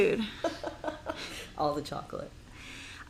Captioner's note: laughing